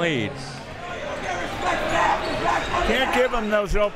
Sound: crowd members shouting

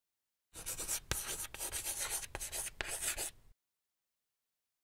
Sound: chalk writing on board

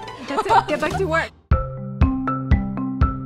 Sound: laughter; upbeat music

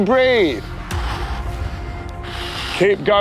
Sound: music intensifies; strained breathing

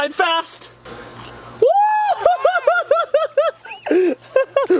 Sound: laughter

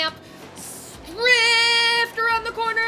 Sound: hisses

